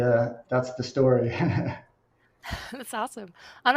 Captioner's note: laughs